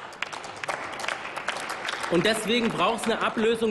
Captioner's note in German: Applaus